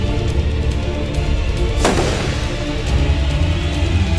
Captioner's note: gun firing